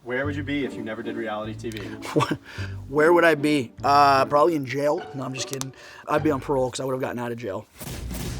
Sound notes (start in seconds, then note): 1.8 laughs